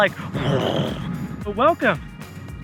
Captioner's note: growling